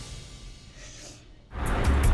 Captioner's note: sniffs